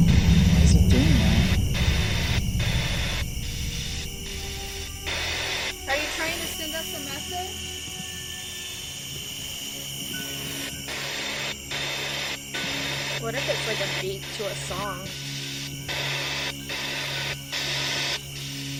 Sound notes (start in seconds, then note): 2.8 slow static pulsing; 8.6 static signaling; 15.8 static signaling